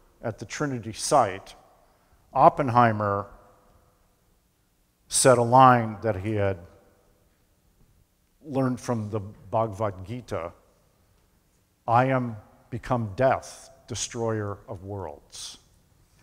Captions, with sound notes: at the Trinity site, Oppenheimer said a line that he had learned from the [foreign language spoken], I am become death, destroyer of worlds.